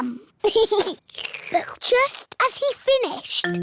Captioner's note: giggles; slurps